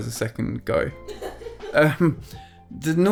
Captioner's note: laughing